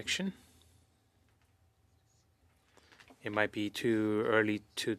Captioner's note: speaking French